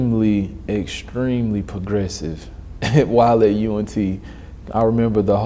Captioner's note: laughs